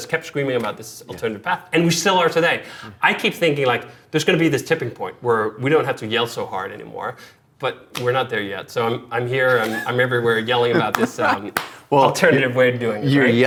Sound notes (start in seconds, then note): 9.5 laughing; 10.8 clapping